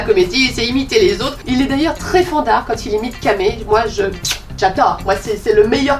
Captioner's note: smack